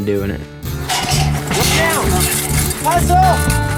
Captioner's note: upbeat music resumes; metal clanging